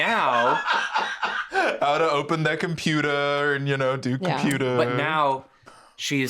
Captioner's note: laughs